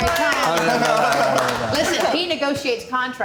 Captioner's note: applauding